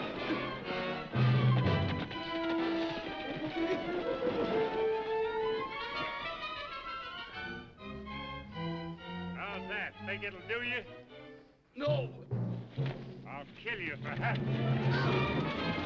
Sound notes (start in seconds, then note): 0.0 dramatic music; 2.9 horse hooves clopping; 6.2 dramatic music; 15.6 dramatic music